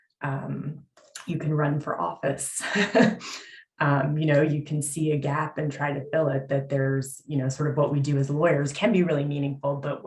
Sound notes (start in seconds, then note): 3.6 chuckles